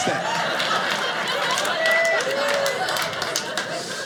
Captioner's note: audience laughing